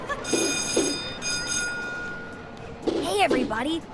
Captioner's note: bell ringing